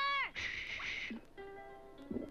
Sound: mysterious string music; water bubbles

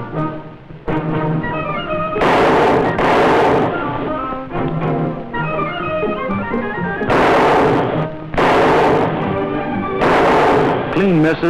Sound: gunshots

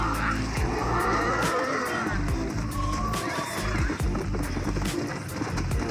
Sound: screams of zombies and gets on his horse; screams of zombies and galloping horse; music or game and galloping horse

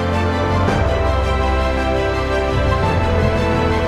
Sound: none

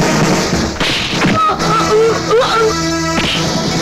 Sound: groans

